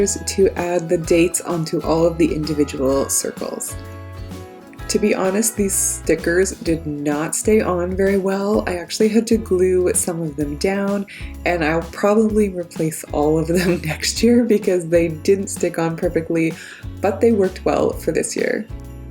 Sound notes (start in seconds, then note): 13.6 chuckles